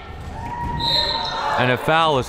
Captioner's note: whistle